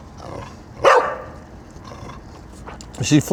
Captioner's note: barking